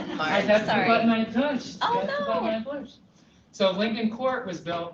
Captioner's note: laughter